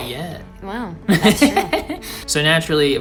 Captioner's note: laughs